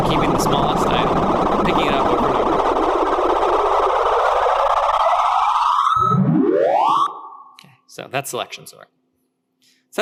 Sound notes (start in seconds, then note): 4.0 ascending distorted electronic whirring